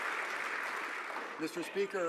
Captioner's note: some Applause